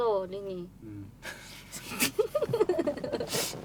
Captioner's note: laughter